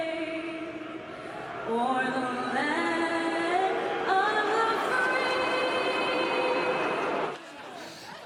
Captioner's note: crowd booing